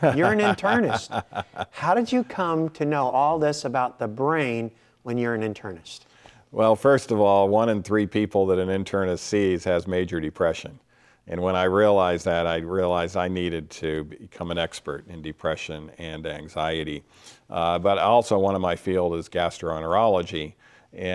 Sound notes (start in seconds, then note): 0.0 laughing